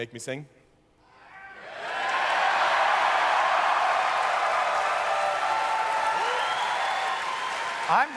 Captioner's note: audience cheers